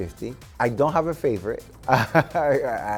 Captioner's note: laughing